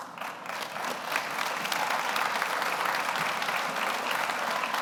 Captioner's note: audience applauds